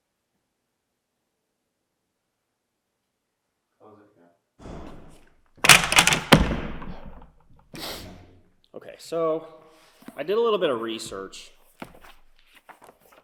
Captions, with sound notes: Close it again. (books thudding) (sniffs) Okay, so I did a little bit of research.